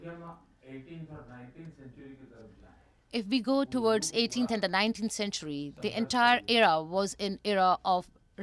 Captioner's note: through translator